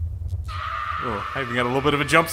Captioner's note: female screams